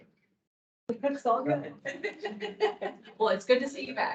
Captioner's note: laughs